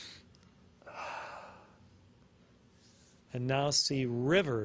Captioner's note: inhales and exhales once